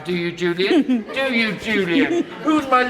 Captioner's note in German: kichernder